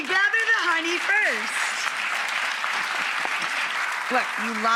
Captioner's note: clapping